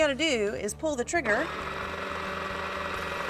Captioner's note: Wizz whirring